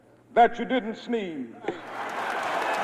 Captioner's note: crowd cheers